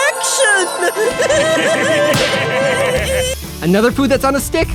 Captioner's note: laughing